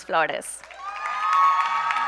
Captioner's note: applause